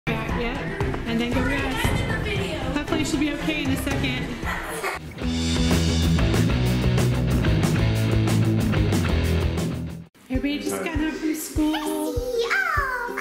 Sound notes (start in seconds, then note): 4.4 laughs; 5.2 rock riff